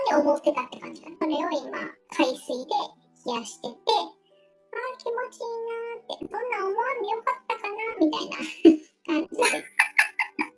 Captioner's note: laughs